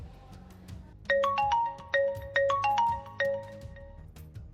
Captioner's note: phone-ringing